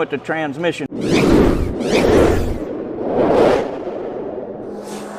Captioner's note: logo whooshing